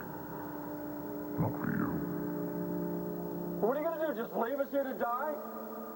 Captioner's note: distorted voice